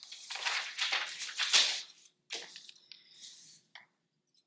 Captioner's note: paper rustling